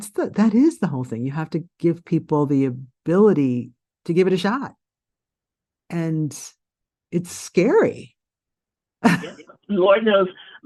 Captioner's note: laughs